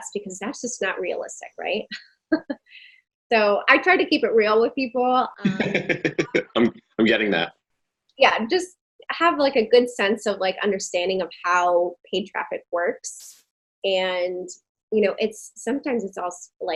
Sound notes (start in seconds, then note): 5.4 laughing